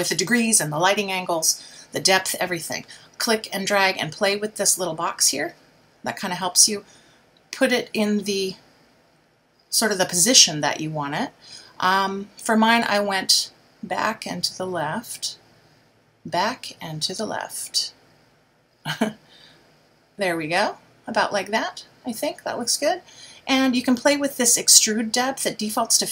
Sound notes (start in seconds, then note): 19.3 laughs